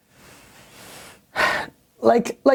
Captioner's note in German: Seufzt